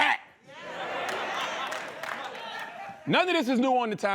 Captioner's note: laughter